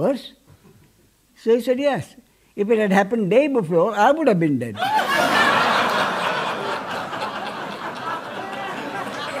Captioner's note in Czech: smích